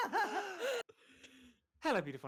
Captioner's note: all laughing; sighs